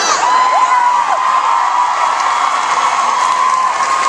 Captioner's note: audience cheering